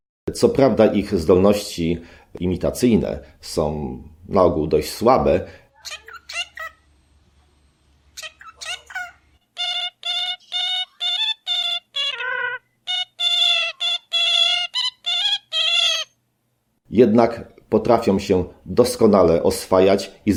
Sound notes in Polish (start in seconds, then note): 5.8 odgłosy katarzynki